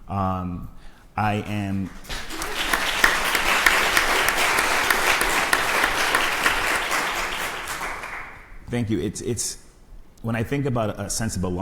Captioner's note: crowd applauds